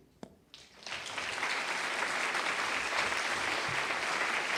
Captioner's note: applause